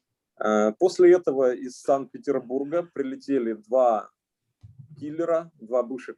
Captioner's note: speaking Russian language